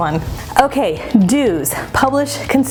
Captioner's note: transition whooshes